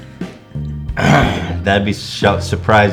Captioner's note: regretful grunt